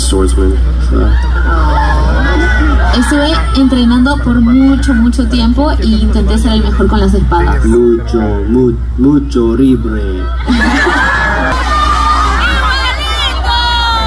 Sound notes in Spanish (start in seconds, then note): 6.3 Mackenyu hablando español al acabar la traducción